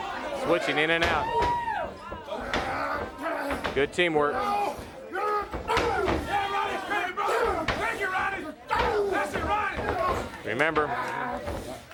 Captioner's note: crowd chatter